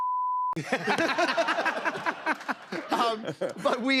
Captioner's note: laughter